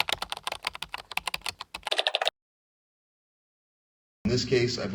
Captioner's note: keys clicking on keyboard